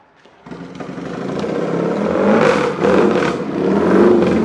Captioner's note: engine revving